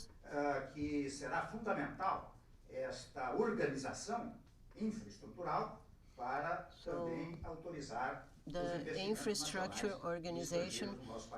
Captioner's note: through translator